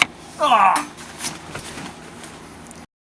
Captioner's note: dying noises